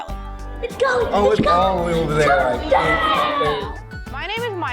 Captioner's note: students cheering on their racers